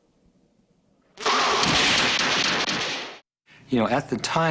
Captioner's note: roaring